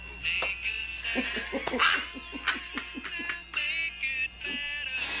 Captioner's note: both laughing